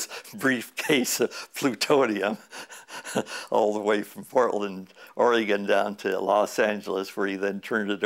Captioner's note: chuckle